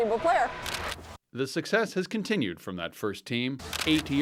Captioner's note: camera clicks